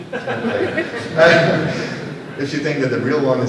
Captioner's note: laughter